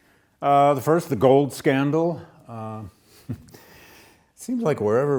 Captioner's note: laughs